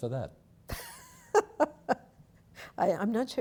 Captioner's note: laughing